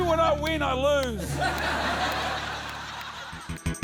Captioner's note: laughter